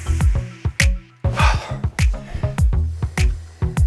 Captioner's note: exhales